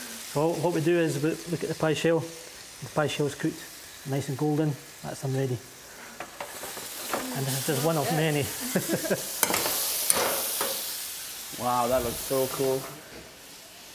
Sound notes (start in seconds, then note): 8.6 laughing